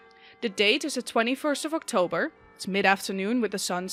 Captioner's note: bells begin to chime